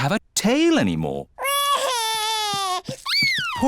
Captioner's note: crying